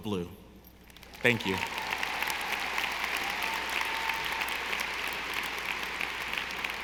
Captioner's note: audience applauding